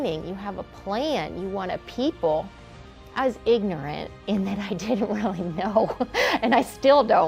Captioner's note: laughter